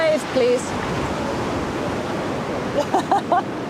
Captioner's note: waves roaring; laughs